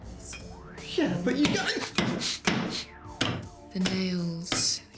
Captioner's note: grunts, gasps